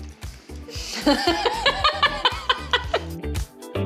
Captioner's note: laughing